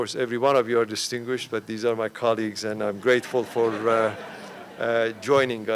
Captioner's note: laughter